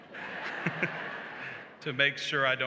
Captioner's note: laughter